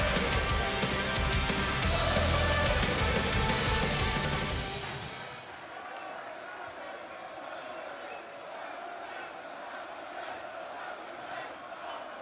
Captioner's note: crowd cheering